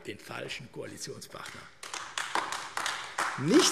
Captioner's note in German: Beifall AfD